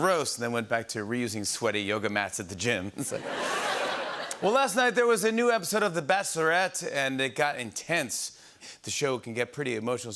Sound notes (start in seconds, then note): 2.9 laughter